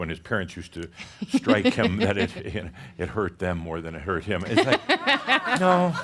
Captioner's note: she giggles; some laughter